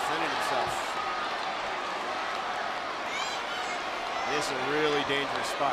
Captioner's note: applause